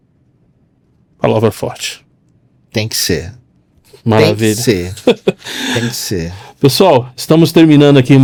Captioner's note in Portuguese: risadas